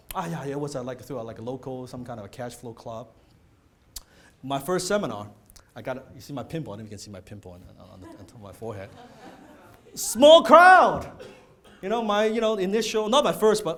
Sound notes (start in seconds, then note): 8.8 audience laughing